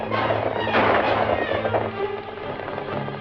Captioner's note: gunshot